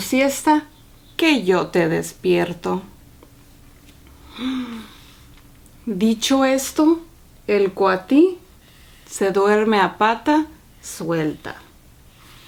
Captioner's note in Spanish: ronquidos